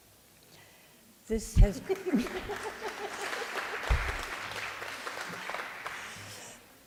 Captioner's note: audience Claps